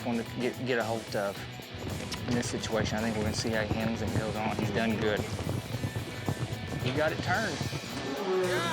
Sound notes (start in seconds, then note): 6.1 hoof beats